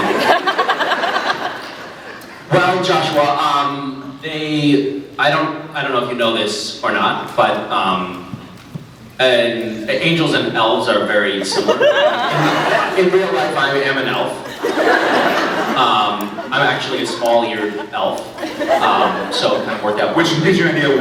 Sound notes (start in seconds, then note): 0.0 laughs; 11.9 laughs; 14.0 laughs